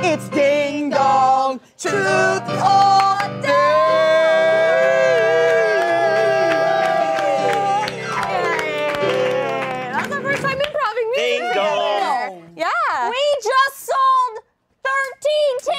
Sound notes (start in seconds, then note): 7.3 all applauding; 7.3 cheering